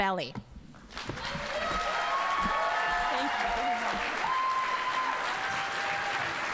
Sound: audience cheering and applauding

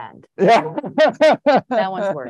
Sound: laughs

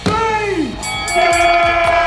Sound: crowd cheering; fight bell dinging

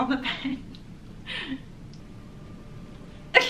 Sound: laughs

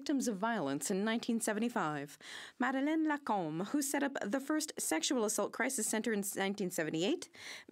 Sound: speaking French

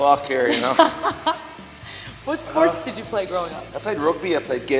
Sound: laugh

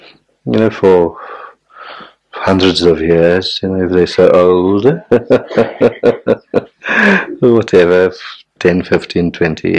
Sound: laughs

